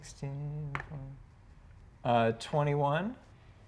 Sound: die taps table

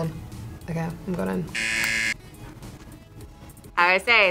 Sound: buzzer rings

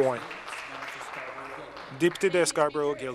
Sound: applause

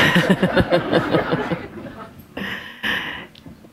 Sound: laughter

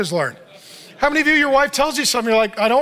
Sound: audience laughs

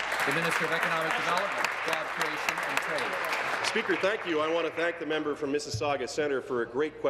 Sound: applause

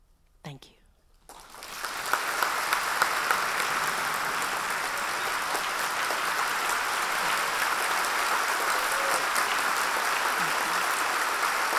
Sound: applause

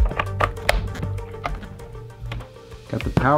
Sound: clicks

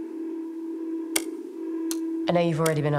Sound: click

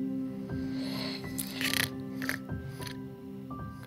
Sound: snoring

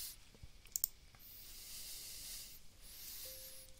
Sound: mouse clicks

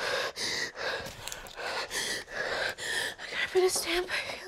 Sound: heavy Breathing

